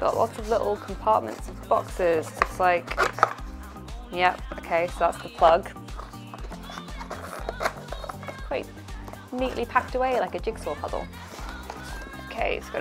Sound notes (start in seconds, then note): 5.2 cardboard crinkling